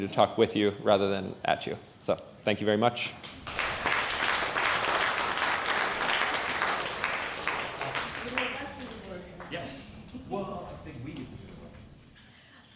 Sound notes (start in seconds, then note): 3.2 applause; 8.5 low volume chattering